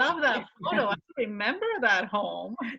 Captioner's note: laughs